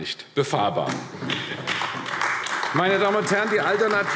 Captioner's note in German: Beifall AfD